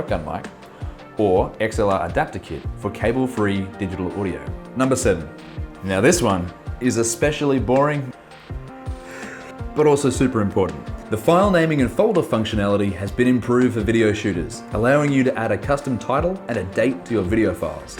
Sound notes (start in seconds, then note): 9.1 yawns